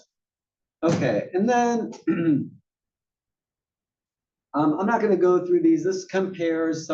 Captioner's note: cough